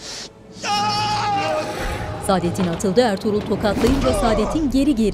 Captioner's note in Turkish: Dövüş sesleri